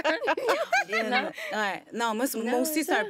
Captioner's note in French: rires